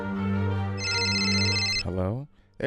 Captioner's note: phone ringing